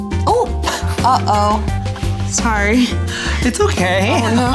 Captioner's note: laughs